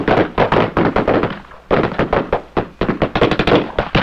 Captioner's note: guns fire